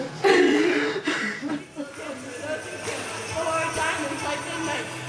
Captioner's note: crying